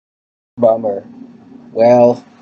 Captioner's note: massive voice crack